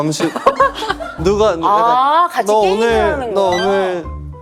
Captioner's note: haha